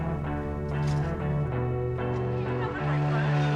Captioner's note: door clacks; water splashing